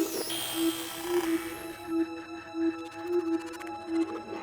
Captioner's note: electronic noises